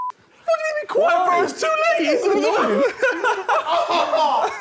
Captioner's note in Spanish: todos exclamando